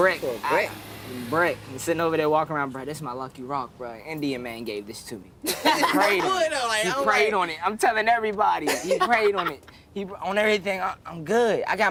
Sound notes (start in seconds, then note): 5.4 laughter!